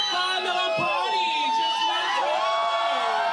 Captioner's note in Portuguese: todos gritam